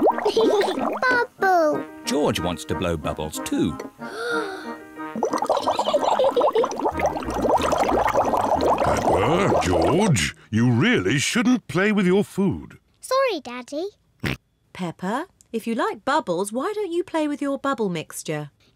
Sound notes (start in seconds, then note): 0.1 laughs; 4.0 takes big breath; 5.7 giggles; 14.0 oinks